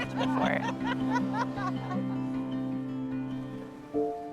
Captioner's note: laughing